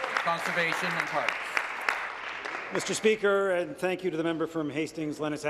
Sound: applause

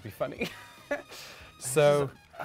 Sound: laughs

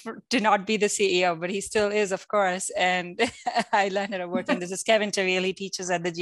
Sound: laugh

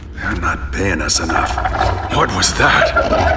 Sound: snarling and cackling

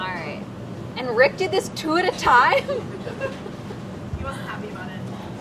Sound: laughs

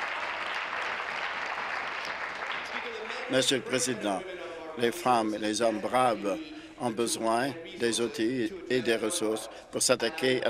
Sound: applause

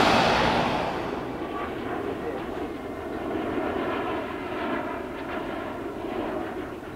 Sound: airport ambience

